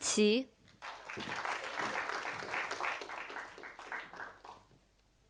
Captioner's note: audience applauding